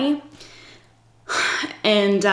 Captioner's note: sighs